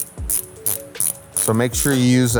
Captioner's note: wrench cranking